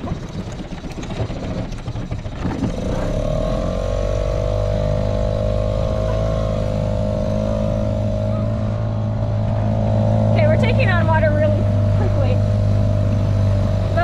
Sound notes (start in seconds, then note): 0.0 engine starting; 4.5 engine revving